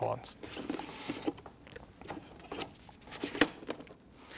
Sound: container clanging

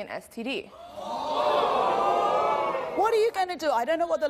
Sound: audience boos and gasps

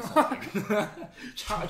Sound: laughs

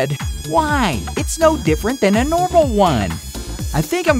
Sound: whiny voice

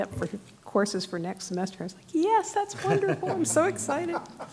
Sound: laughter

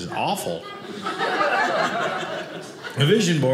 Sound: audience laughing

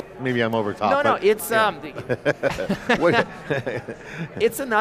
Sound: laughing

